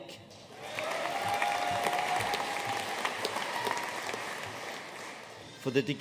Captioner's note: audience cheering and applauding